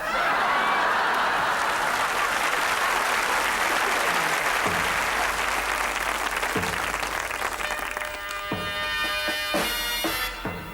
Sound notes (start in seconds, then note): 0.0 audience laughs; 2.3 audience applauds; 5.5 dramatic music